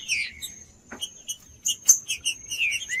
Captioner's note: trinca ferro cantando